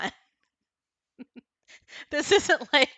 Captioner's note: chuckles